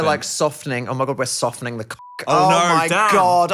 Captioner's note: beep